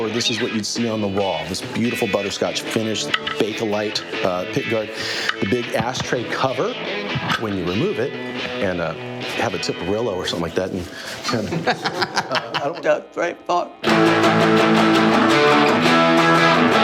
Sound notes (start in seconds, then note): 10.9 laughs